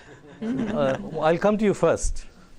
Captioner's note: laughter